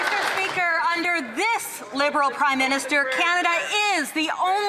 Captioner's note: some Applause